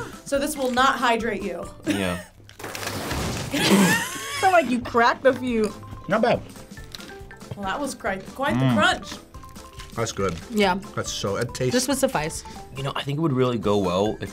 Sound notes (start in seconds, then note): 2.5 rocks crumbling; 3.5 laughing